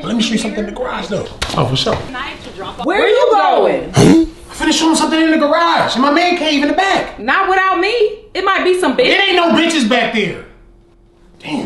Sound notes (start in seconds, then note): 3.9 cartoonish "huh" sound